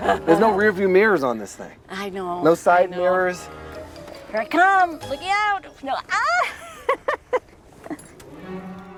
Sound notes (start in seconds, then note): 0.0 laughs; 6.9 laughs